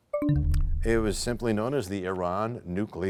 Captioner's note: bell chimes, time expires